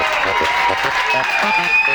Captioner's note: crowd applause and chanting